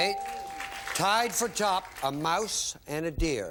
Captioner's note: bell; applause